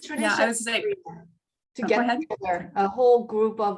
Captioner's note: overlapping chatter